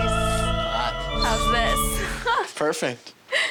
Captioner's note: angelic music; laughing